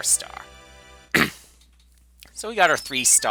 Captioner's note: clears throat